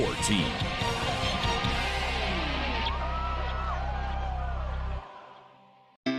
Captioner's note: cheering